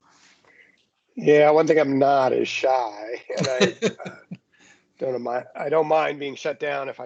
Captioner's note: laughs